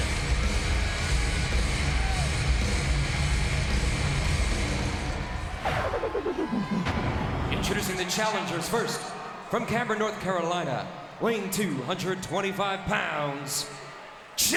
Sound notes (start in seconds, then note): 0.0 upbeat rock music; 5.9 belt whooshing